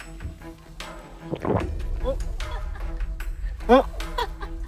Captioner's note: sound of swallowing